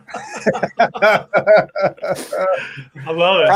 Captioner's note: laughs